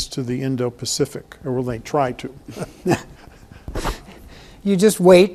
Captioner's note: pair chuckles